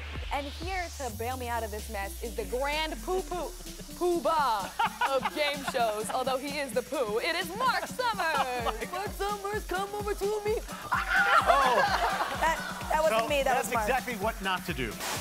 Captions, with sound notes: And here to bail me out of this mess is the grand poo poo-- Poobah of game shows, although he is the poo, it is Mark Summers! Mark Summers, come over to me! [screaming] - That wasn't me, that was Mark. - That was exactly what not to do.